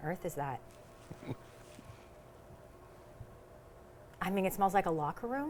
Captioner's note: chuckling